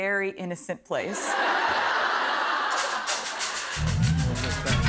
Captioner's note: laughter